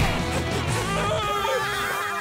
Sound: laughing; screaming

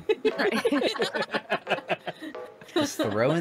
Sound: laughing

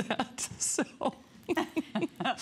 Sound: laughter

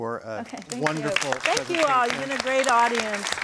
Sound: applause

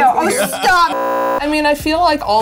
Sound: beeping

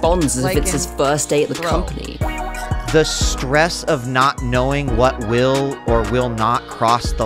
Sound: sarcastically

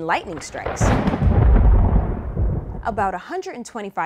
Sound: thunder rumbling

